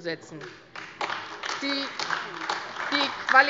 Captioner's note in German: Beifall AfD